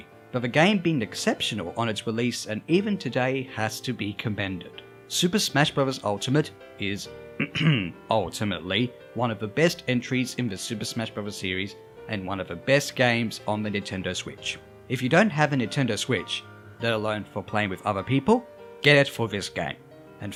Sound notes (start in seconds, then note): 7.3 ahem